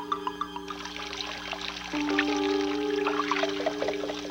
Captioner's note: tense music; water running